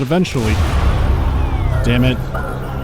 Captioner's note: menacing music; loud crack